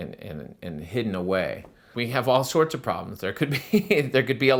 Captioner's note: laughter